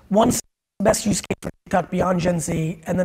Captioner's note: distortion